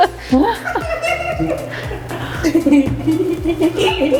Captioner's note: all laughing